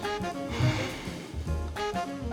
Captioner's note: interviewee sighing